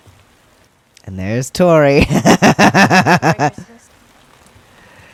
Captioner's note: laughter